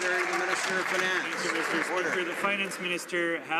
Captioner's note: some Applause